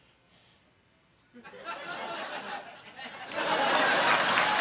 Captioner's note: audience laughing